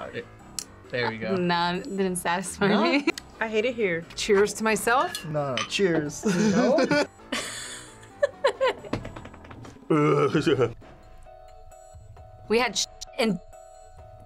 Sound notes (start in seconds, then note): 6.2 laughs; 8.2 laughs and stamps feet